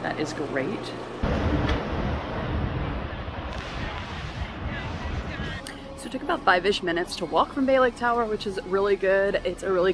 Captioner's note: Monorail noise